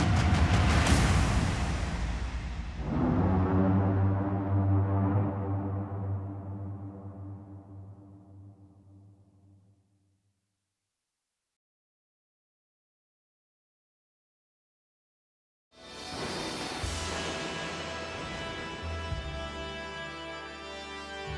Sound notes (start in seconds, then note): 0.0 drums beat; 2.8 horn blasts